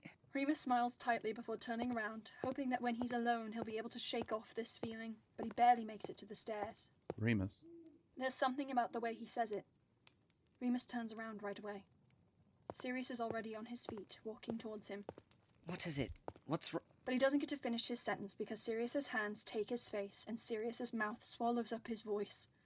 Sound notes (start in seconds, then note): 1.4 footsteps; 5.4 footsteps stop; 12.7 footsteps; 15.8 footsteps stop